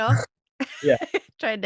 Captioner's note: laughter